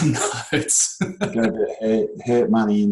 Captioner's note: laughs